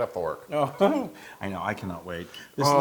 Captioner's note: laugh